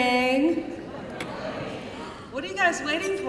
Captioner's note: crowd